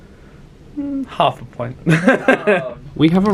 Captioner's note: laughs